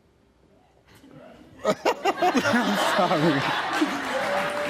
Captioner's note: laughing